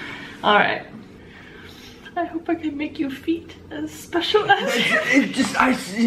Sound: laughing

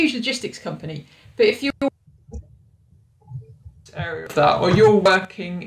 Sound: audio distorting

